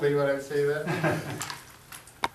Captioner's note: laughs